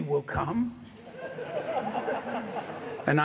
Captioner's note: laughter in hangar